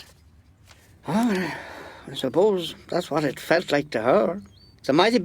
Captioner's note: sigh